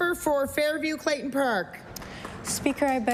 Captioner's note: applause